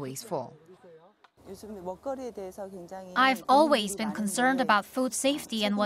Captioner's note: Korean